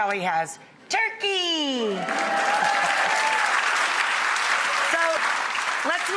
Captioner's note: audience applauds